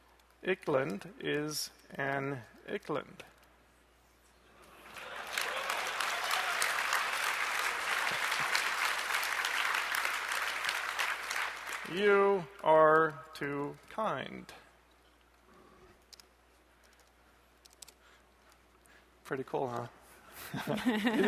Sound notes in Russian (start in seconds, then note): 4.7 аплодисменты; 20.4 Смех